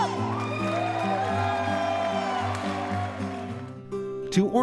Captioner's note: crowd cheering